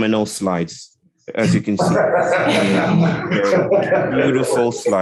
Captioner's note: laughing